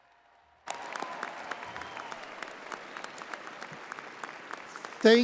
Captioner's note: applause